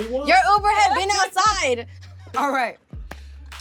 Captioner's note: laughing